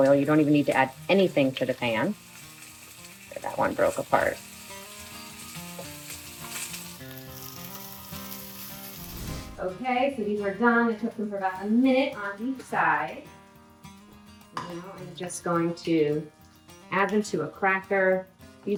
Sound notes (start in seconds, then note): 4.7 lively music; 4.7 sardines sizzling; 8.9 air whooshes